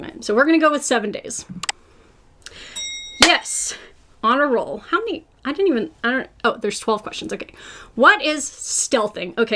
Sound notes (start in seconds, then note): 2.7 bell dings